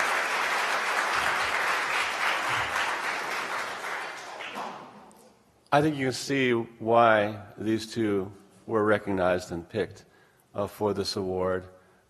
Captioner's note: applause